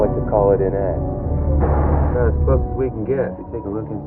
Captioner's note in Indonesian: Brakes Hiss